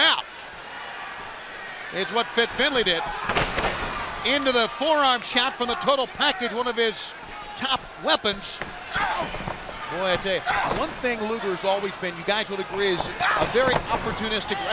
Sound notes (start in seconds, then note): 7.0 crowd cheering